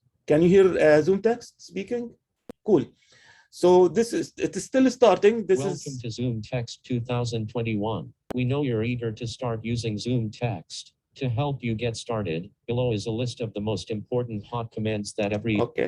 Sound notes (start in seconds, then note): 5.7 computer voice